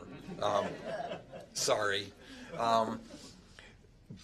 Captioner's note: laughter